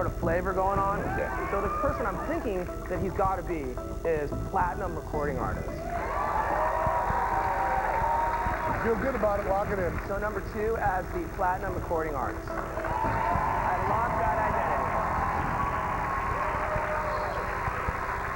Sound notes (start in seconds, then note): 5.8 cheers and applause; 14.4 cheers and applause